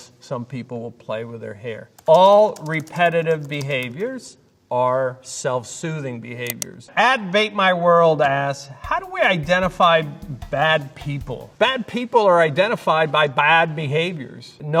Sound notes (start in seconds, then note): 6.4 mouse clicking